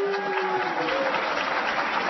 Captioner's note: applause